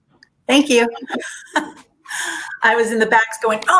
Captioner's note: laughs